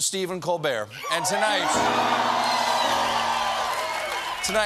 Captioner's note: cheers and applause